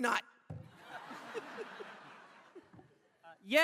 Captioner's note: laughter